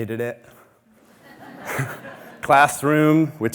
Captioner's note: audience laughing